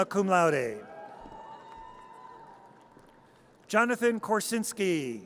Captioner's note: audience cheers